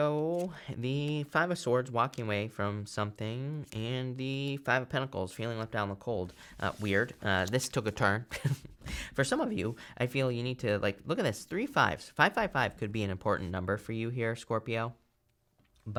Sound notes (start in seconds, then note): 8.3 chuckles